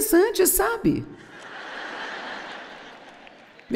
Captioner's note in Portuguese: audiência ri